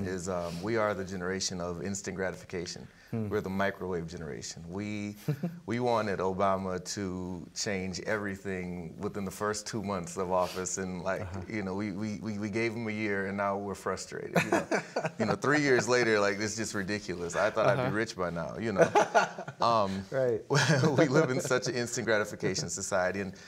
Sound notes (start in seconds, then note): 5.2 chuckling; 14.4 laughing; 19.8 laughing